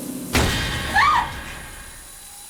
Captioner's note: screams